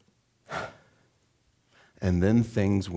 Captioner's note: exhaling